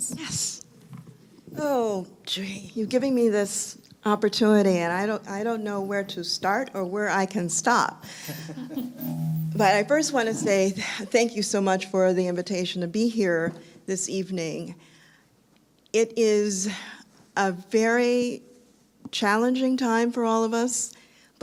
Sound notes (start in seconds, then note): 8.2 laughter